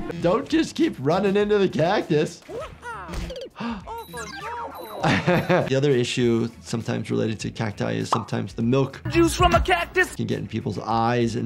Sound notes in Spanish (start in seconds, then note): 2.6 el doctor se ríe